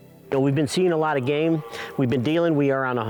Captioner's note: stag roaring